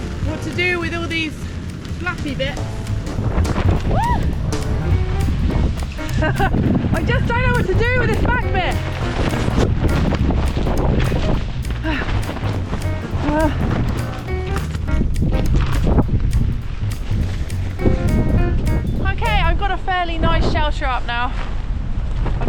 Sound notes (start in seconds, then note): 3.2 wind; 4.0 screech; 4.8 wind; 6.0 laughs; 9.0 wind